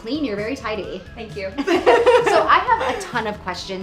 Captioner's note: laughs